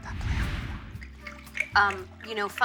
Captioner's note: air whooshing; wine splashing